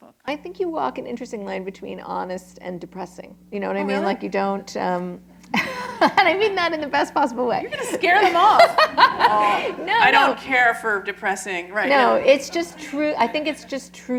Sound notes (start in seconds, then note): 5.5 laughter; 7.7 laughter